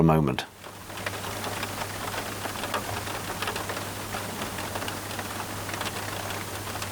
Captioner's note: sound of the little "tinkle tinkle" of the rain